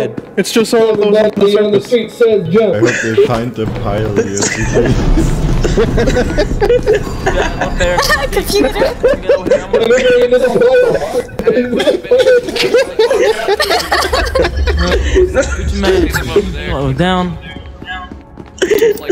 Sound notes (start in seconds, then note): 9.4 laugh; 14.1 spectators continue laughing